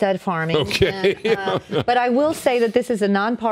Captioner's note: laughing